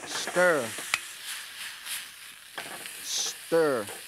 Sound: vegetables fry

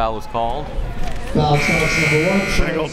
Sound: buzzer

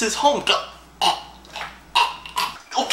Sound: choking

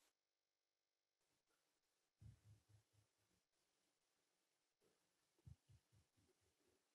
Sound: none

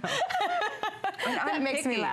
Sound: laughter

